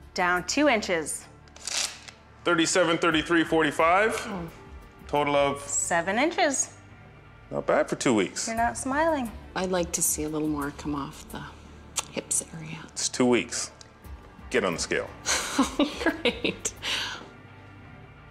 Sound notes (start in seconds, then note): 15.3 laughing